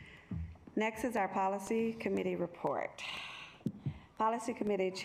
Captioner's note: sighs